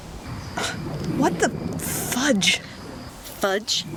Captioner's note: scoffs